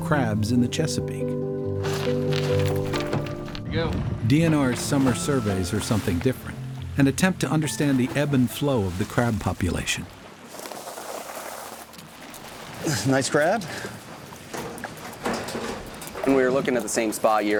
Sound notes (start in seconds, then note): 1.8 scraping; 10.3 sloshing; 14.5 clanking of metal